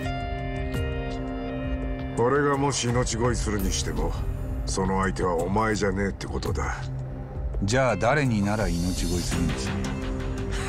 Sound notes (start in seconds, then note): none